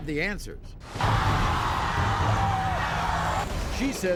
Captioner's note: crowd